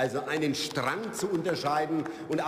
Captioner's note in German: Beifall